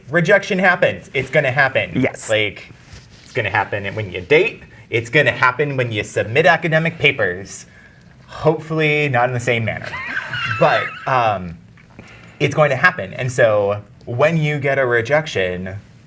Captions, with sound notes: rejection happens. It's gonna happen. Yes. Like, it's gonna happen when you date, it's gonna happen when you submit academic papers. Hopefully not in the same manner. (Guy laughing) But it's going to happen. And so, when you get a rejection,